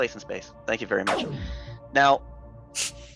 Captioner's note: in-game ship shooting